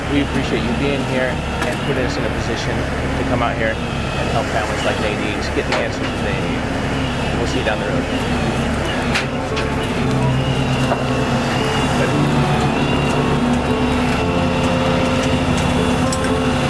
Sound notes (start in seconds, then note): 10.1 sad piano music; 10.1 towing truck revving